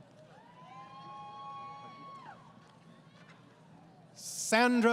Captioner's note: crowd Cheering